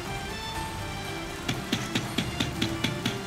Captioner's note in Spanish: Toques en la puerta